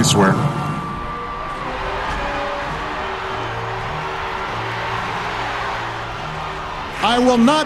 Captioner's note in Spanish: Applause